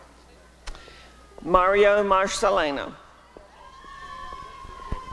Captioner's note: applause and cheering